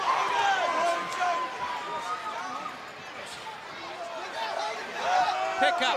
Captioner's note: crowd cheering